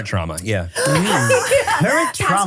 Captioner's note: laughs